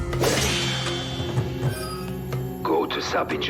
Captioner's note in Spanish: pitido